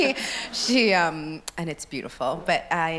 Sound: audience laughs

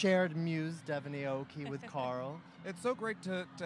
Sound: laughing

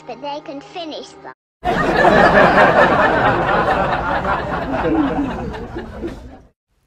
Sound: audience laughing

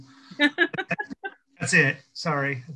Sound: laughs

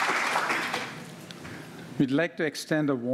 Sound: applause

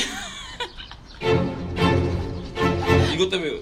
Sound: laughs?

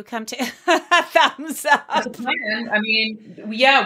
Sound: laughs

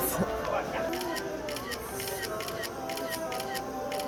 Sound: rapid shutter

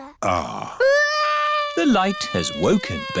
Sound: crying

